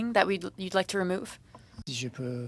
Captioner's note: speaking French